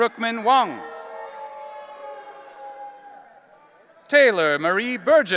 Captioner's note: audience cheering